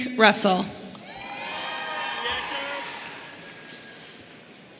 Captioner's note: audience cheering